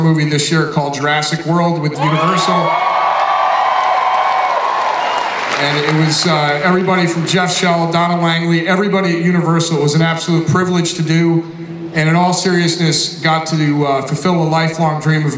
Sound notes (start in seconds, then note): 2.0 audience cheers